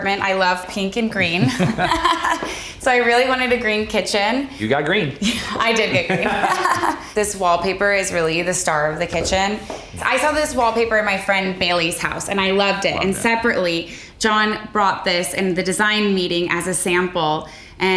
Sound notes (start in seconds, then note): 1.1 Kate laughing